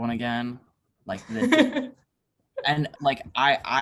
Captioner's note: laughs